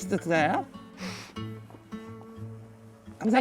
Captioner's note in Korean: 훌쩍